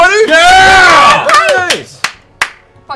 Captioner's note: cheering